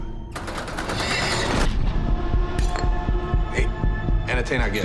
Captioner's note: garage door clanks